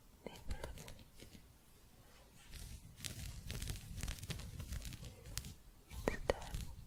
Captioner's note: gentle scratching